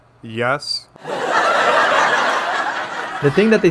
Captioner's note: laugh track